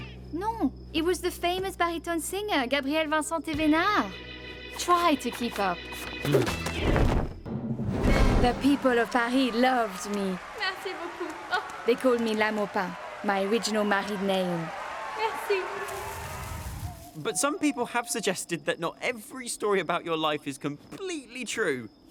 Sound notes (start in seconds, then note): 6.3 grunts; 14.7 crowd cheering